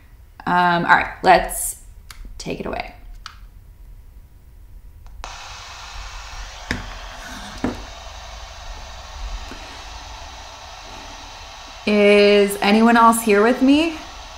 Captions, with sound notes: All right, let's take it away. (machine whirring) Is anyone else here with me?